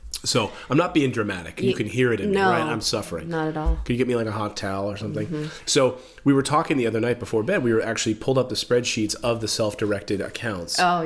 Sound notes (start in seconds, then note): 3.3 sarcastically